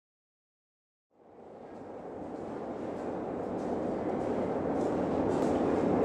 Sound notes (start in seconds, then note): 1.5 railway clacking